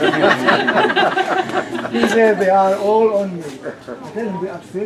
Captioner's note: laughter